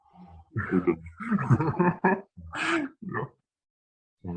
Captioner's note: laughs